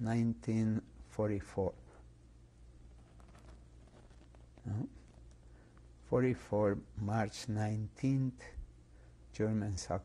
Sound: pauses for 3 seconds

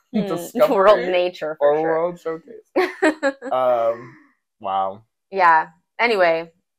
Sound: laugh

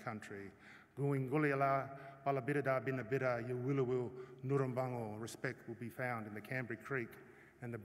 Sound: non-english speech

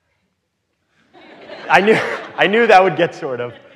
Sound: audience laughing

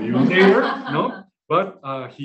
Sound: laughing

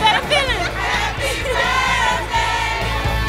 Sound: crowd; energetic music

